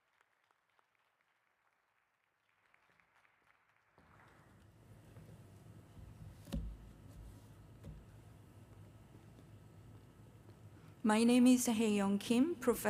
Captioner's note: applause